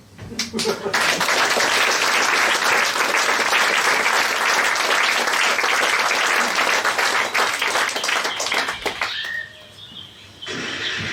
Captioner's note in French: Applaudissements